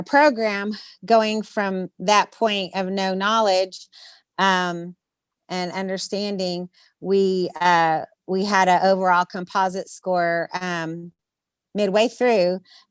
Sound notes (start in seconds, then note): none